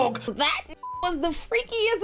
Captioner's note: beep